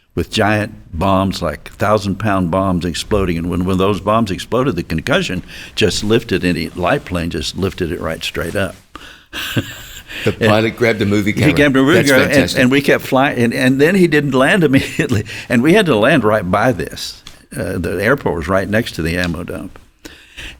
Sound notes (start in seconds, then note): 9.3 chuckles